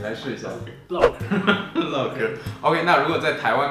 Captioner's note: laughing